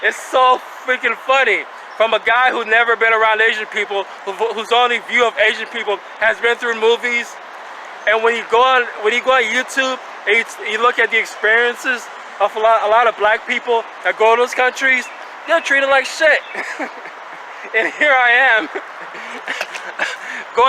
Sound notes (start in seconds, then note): 16.3 laughing; 19.4 chuckling